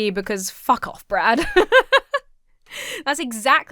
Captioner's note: laughs